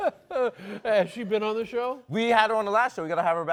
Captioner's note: laughs